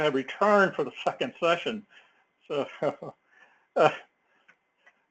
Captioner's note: laugh